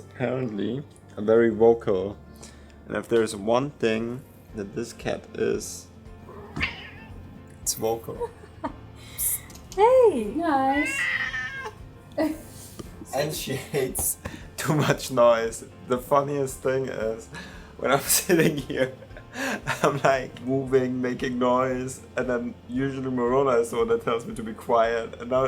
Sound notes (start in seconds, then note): 18.2 laughter